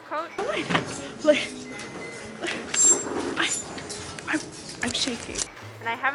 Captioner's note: stutters